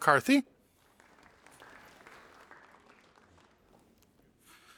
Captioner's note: audience applauding